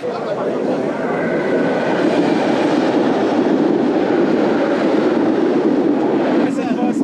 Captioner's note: train